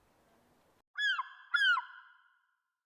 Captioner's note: cry of a seagull